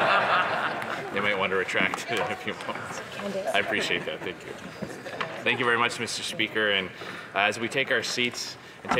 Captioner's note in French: voix de l'interprète